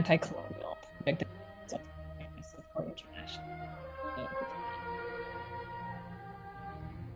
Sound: audio distortion

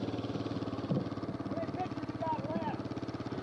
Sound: rumbling continues; shouting

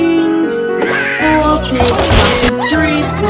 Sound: Red squawking

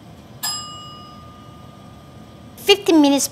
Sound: bell

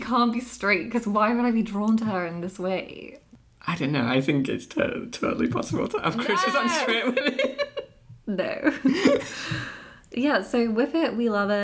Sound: Kit shouting No!!

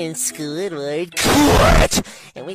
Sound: same dragon voice

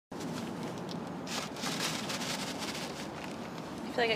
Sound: paper rustling

